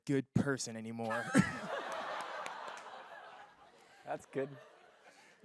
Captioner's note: laughter